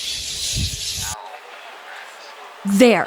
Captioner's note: general chatter